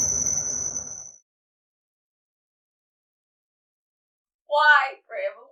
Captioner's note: long silence